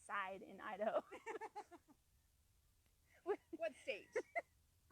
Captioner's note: laughing